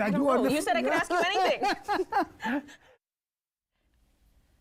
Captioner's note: both laugh